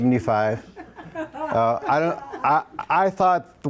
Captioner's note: audience members laugh